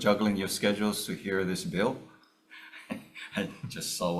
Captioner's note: chuckles